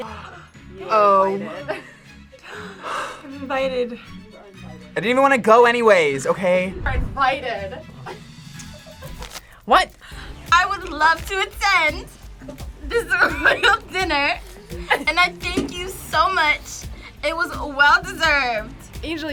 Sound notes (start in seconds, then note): 2.3 gasps; 12.8 laughs